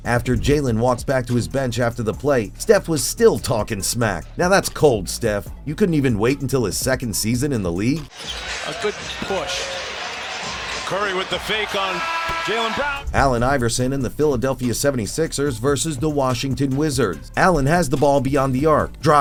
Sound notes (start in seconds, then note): 8.2 game audio